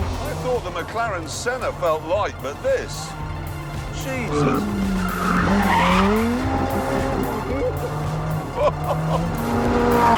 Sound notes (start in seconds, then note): 3.6 tyres squealing; 7.0 he chuckles